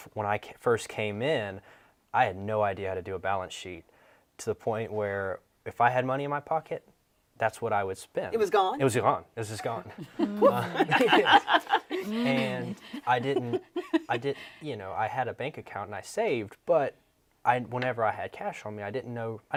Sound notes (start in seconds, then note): 9.6 panelists laughing